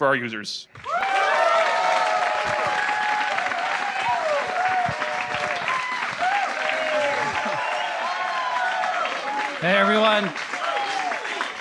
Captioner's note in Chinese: 觀眾歡呼